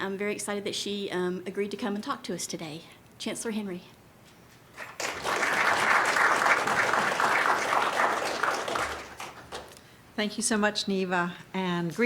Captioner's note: applause